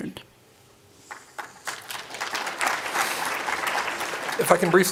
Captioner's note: applause